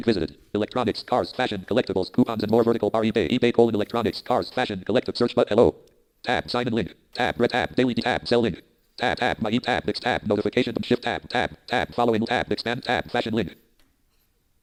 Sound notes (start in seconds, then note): 0.0 dialogue from screen reader